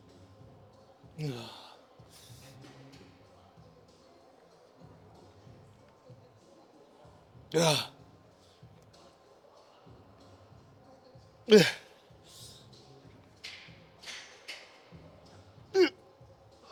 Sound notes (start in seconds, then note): 6.5 grunting